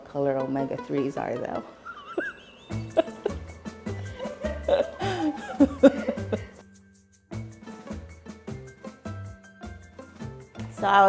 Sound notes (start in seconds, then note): 3.9 laughing; 7.9 quirky music